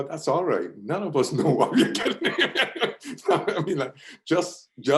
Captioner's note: laughs